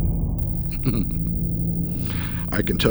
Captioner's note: Bruce chuckles